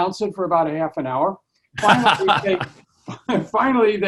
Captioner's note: laughing